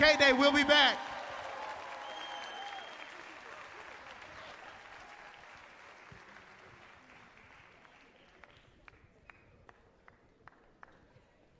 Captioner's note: cheers and applause